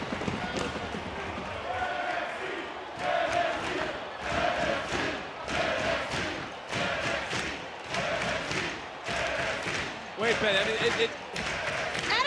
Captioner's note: audience chanting "nxt"